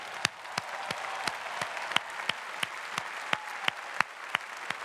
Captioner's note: cheering and clapping